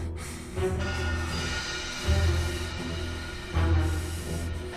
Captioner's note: metal clanking